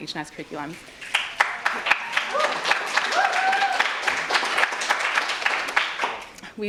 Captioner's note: audience applauds and cheers